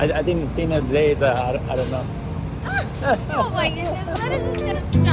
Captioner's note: laughter